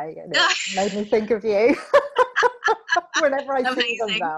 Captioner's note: both laughing